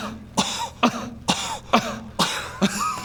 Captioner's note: kuh; kahahaha